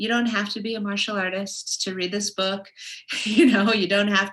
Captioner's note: laughs